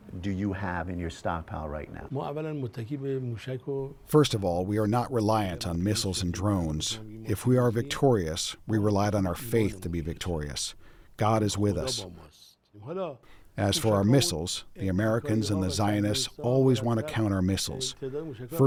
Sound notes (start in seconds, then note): 3.7 through translator